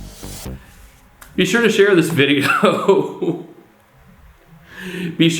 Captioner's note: laughing